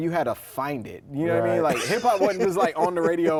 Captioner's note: laughs